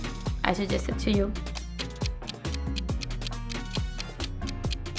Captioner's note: clock ticking